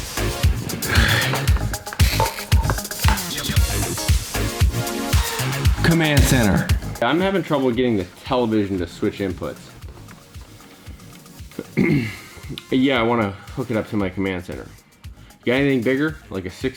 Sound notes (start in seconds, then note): 0.0 dubstep; 11.5 clears throat